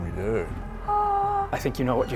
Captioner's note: tiny scream